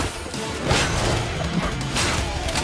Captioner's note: swords clashing; sword hit